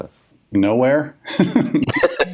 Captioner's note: laughs